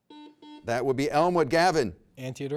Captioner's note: buzzer rings